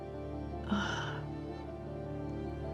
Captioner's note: relieved exhaling; sharp inhale